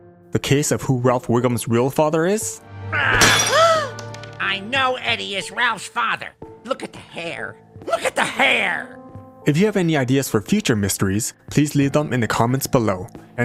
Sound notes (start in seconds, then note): 2.8 gasp; 2.8 grunt